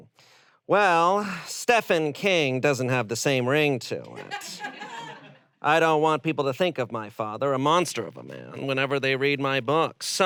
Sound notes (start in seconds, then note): 4.2 audience laughs